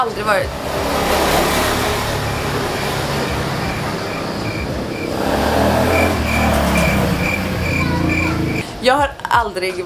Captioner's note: noise from traffic